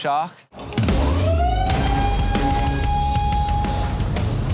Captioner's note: siren sounds